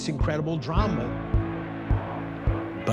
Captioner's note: Crowd chanting "Luz Long"